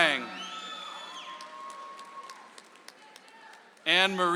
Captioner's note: audience applauds